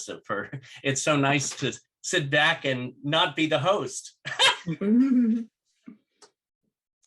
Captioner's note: laughter